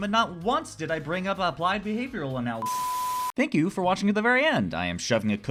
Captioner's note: loud beep